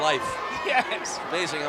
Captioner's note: laugh